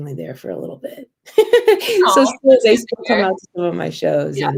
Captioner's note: laughter